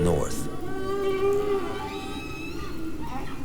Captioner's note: whales singing